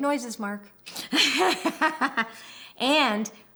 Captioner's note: laughs